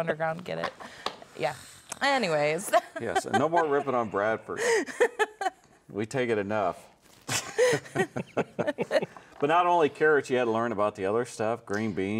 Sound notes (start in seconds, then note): 7.3 laughing; 7.3 laughs